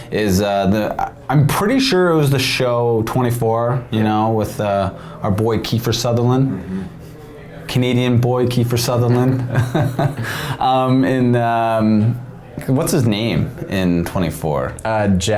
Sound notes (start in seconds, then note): 9.0 laughing